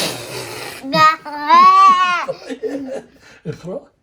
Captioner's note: is laughing